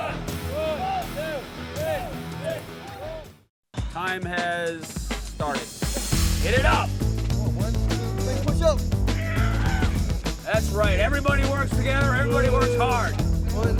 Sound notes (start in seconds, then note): 9.1 students grunting